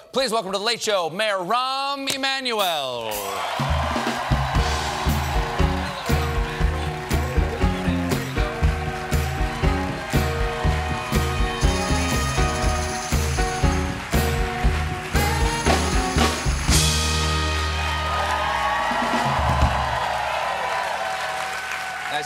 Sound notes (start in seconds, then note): 5.3 cheers and applause